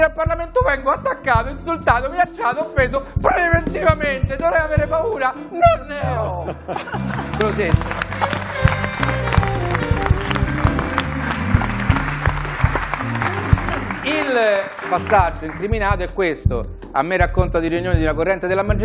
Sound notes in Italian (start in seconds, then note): 7.0 Applauso